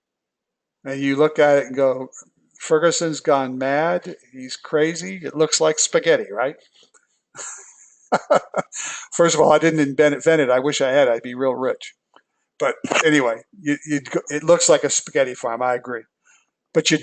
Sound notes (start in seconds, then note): 8.1 laugh